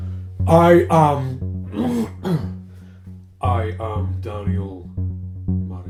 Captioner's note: throat clearing